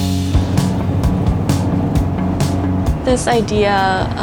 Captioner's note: radio host faintly speaks